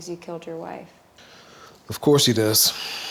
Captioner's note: sighs